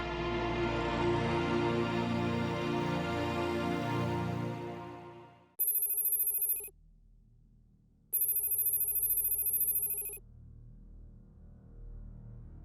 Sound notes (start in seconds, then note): 5.4 electronic beeping